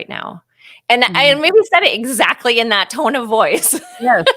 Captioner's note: laughing